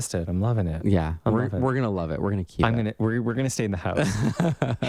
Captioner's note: laugh